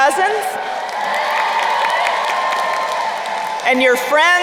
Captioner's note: crowd cheering and applauding